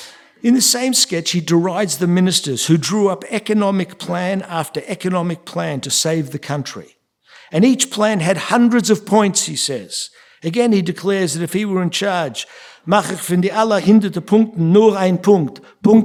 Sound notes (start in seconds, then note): 12.7 speaking yiddish